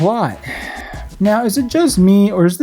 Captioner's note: sigh